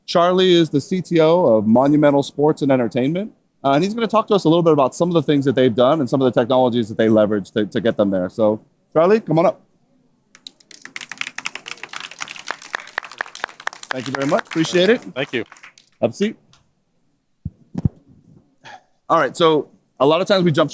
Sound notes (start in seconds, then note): 8.0 applause